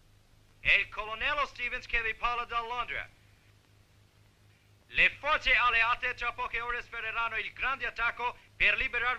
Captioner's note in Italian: radio